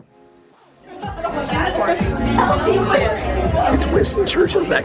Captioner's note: laughter